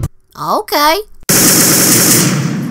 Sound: gunshots

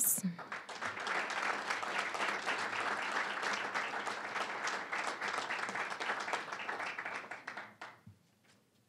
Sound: applause

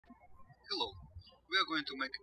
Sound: birds chirping

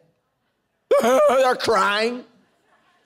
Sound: crying imitation

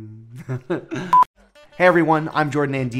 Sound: laughing

